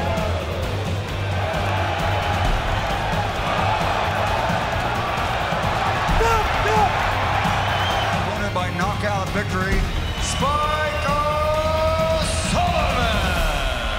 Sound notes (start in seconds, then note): 1.6 crowd cheering